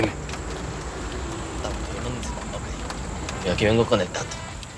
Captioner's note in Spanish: Ruido del vehículo